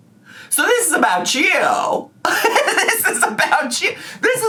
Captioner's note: laughs